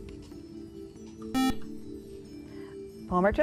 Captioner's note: buzzer